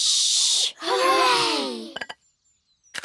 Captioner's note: quietly